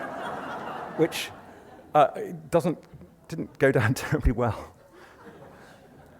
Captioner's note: laughter; laughs; laughter